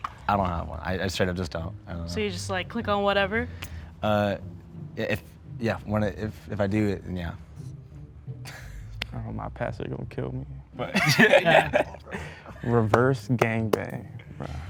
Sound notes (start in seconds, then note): 10.9 laughter